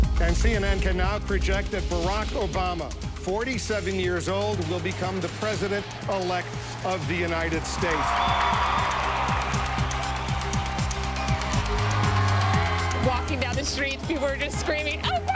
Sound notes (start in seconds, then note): 11.5 audience cheering